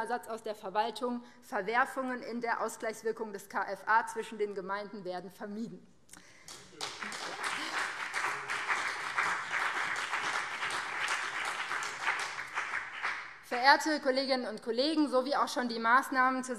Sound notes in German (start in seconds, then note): 6.4 Beifall BÜNDNIS 90/DIE GRÜNEN und CDU